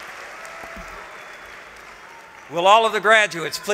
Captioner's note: applause